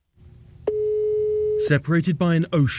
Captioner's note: phone ringing